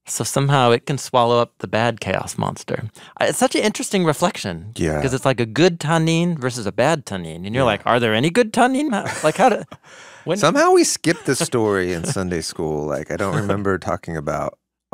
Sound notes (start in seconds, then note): 10.9 chuckling